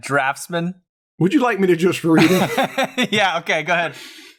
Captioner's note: laughter